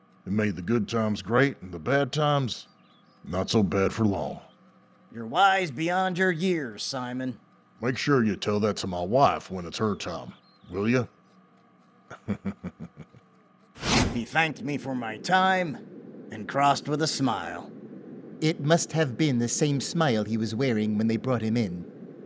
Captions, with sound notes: It made the good times great and the bad times ... not so bad for long. You're wise beyond your years, Simon. Make sure ya tell that to my wife when it's her time. Will ya? [giggles] [swoosh] He thanked me for my time and crossed with a smile. It must have been the same smile he was wearing when they brought him in.